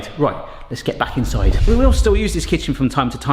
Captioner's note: none